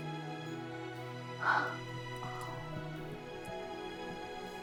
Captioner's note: gentle music continues; Abby gasping